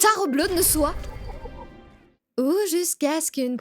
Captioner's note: game sound